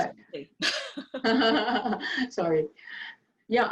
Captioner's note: laughing loudly